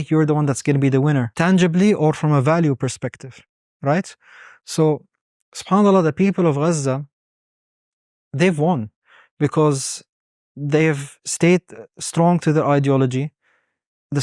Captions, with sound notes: you're the one that's gonna be the winner tangibly or from a value perspective, right? So (speaks Arabic) the people of Gaza, they've won because they've stayed strong to their ideology.